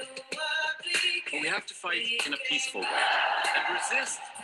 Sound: crowd cheering

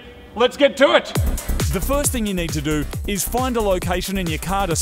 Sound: voice over

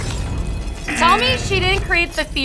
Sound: buzzer

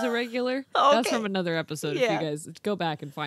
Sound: laughs

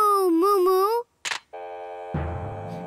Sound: recipient hangs up

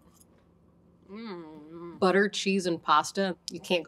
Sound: hums

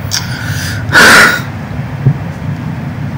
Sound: very deep exhale

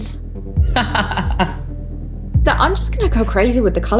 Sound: laughs

